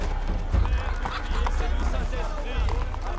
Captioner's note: chattering in foreign language